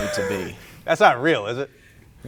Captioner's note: laughs